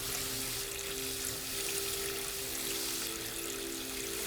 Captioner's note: none